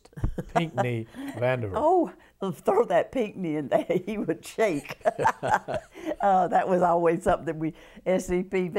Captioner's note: laughter